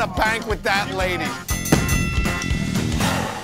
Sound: ding!

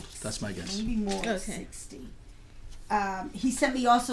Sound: voiceover

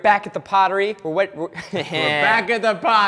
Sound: chuckles

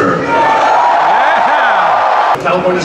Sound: crowd cheering

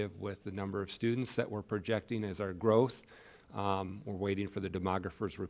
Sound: none

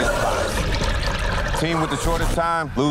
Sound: gasping

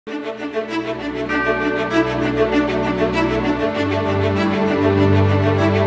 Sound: bright orchestral music; bell dings

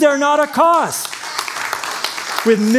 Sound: applause

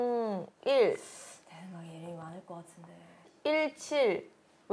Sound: mumbling

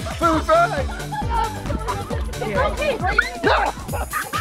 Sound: laughs

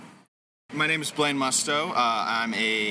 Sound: voiceover

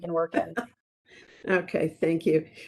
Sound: laughing

